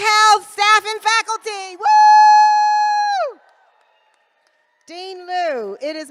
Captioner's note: applause